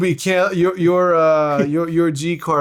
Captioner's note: laughing